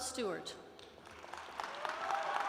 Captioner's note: applause